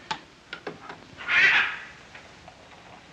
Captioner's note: bird squawks